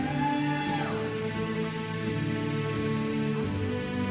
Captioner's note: attendees cheering; uplifting music continues